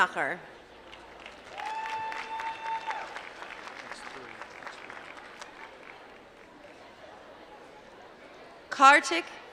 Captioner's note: applause